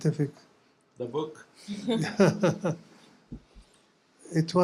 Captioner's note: laughter